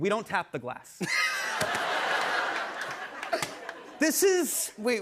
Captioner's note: laughter